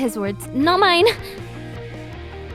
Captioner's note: laughs